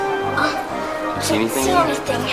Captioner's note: assistant gasps